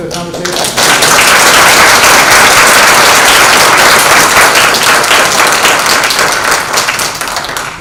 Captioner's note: applause